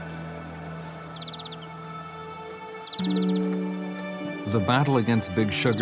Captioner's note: gentle music; bird chirping